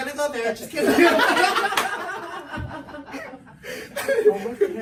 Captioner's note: everyone laughs